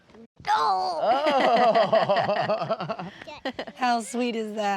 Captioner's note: everybody laughs; in scratchy voice